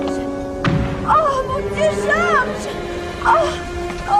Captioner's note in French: Détonation